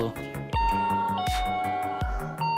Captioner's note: doorbell ring